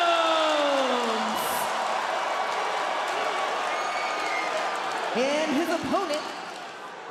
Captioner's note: crowd cheers